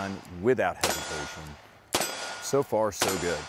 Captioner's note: gun shot; gun shots